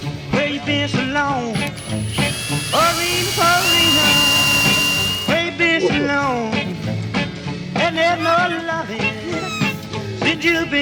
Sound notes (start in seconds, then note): 1.5 drill grinding; 9.4 laughing